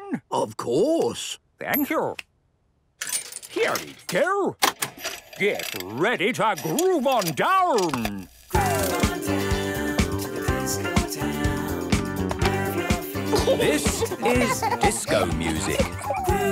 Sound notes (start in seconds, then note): 4.5 clicks, whirring; 8.6 disco music plays